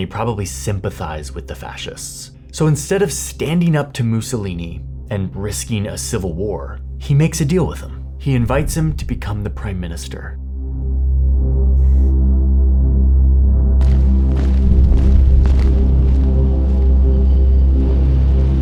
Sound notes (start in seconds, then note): 14.5 footsteps marching